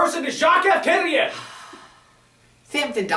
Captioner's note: Francis sighs deeply at Sampson's ignorance